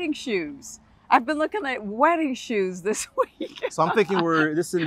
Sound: laughter

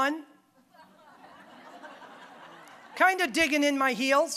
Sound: audience laughing

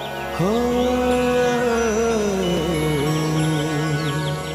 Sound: humming

